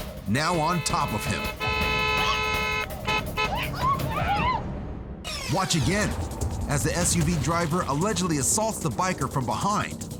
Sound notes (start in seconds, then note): 2.5 car horns